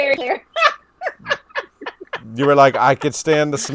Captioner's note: laughing